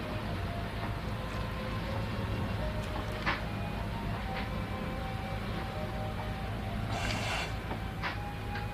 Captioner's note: sighing